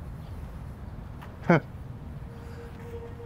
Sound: laughs

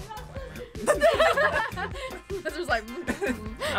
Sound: laughs

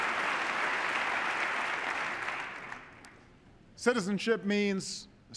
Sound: cheers, applause

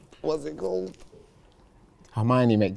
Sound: none

